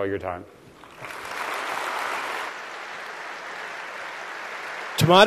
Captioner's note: applause